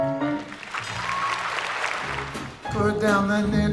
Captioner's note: audience applauds